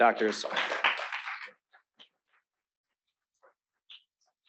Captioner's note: applause